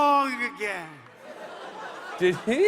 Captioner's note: laughter